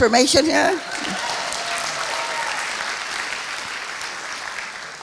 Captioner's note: applauding